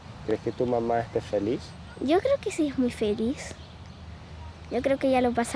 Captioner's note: speaking in foreign language